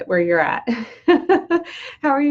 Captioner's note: laughs